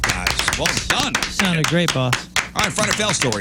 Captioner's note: applause